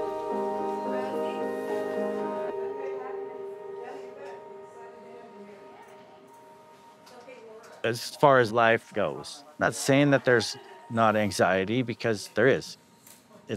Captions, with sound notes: (people chattering) As far as life goes, not saying that there's not anxiety because there is.